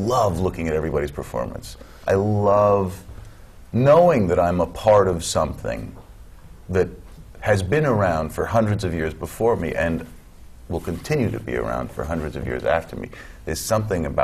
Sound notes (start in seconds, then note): none